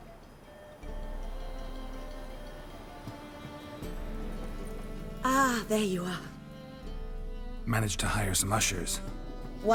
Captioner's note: none